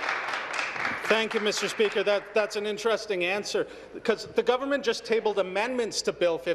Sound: applause

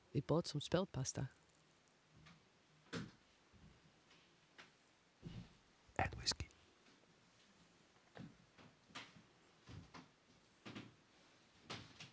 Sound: whisper

